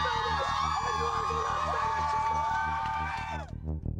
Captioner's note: crowd cheering